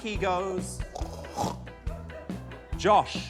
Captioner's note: snorts